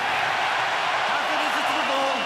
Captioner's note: cheering